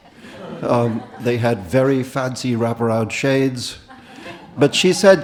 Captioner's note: audience laughed